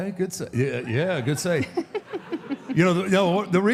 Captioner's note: Michelle laughs